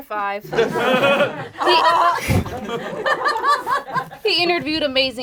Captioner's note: group laughs